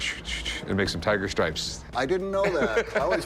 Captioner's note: laughs